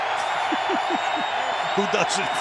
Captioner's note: laughs